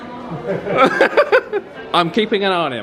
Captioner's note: laughing